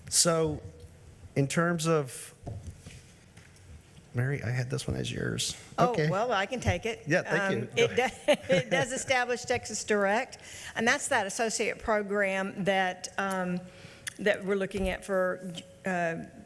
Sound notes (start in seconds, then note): 7.4 laughs